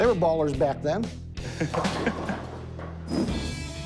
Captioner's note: laughs